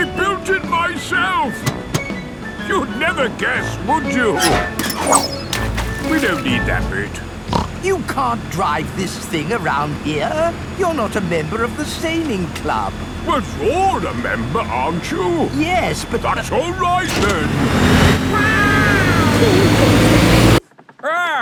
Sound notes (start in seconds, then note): 4.6 splashes; 7.4 snorts; 18.3 laughing